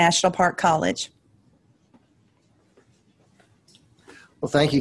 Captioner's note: silence